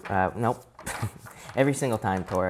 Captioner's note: chuckles